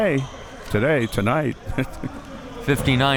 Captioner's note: chuckles